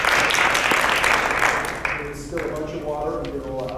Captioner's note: clapping